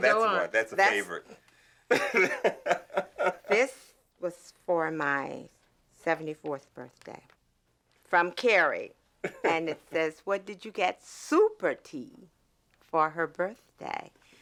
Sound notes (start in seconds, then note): 1.9 Kerry laughing